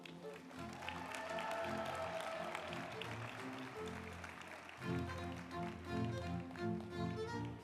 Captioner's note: group applauding; uplifting music